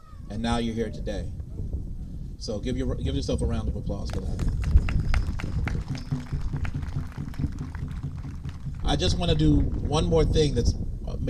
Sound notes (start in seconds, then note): 4.0 applause